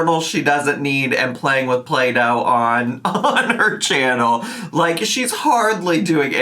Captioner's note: chuckling